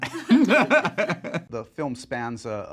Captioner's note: laughs